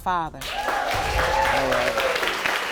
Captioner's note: audience cheering